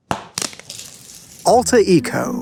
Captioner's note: wrapper tears